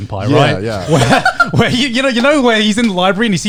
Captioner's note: laughs